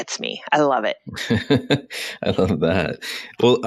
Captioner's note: laughs